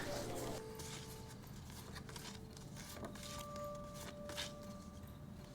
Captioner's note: photos scraping